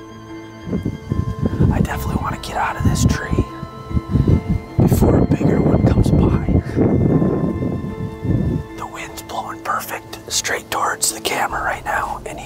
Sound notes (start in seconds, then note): 0.1 somber music; 6.7 wind whooshing